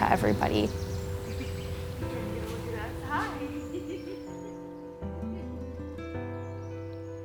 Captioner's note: birds chirping